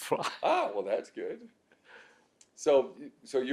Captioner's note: laughs